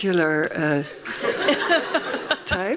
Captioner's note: laughing; laughs